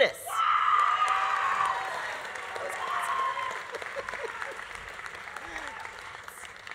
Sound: audience cheering; audience applauding

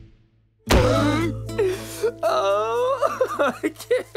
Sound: sobbing

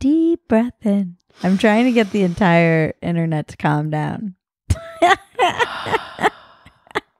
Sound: laughs

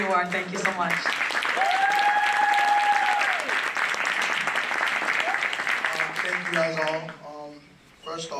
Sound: applause

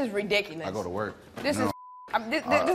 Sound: beep

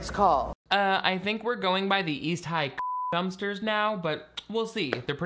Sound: beep

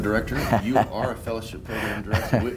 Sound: laughs

